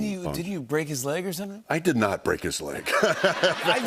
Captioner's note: laughter